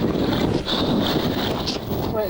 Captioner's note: water whooshing; wind whooshing